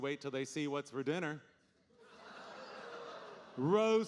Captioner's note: audience laughing